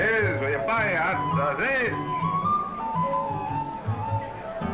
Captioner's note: speaks in foreign language; upbeat string music